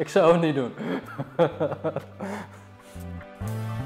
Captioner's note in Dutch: hard gelach